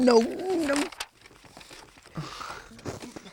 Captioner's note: papers rustling